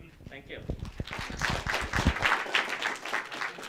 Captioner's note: applause